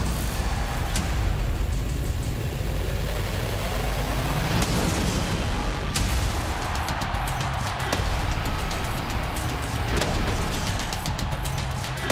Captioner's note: crowd cheering